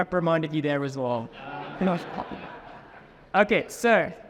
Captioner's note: audience laughing